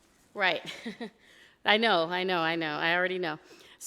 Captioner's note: chuckles